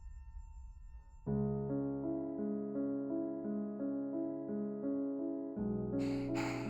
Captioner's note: Abby pants